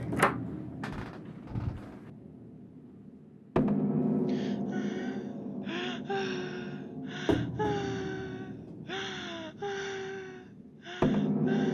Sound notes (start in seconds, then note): 4.0 sounds of distress